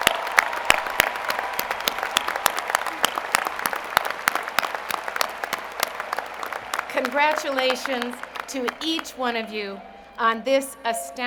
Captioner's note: applause